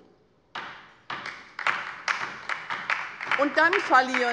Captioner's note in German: Beifall bei der LINKEN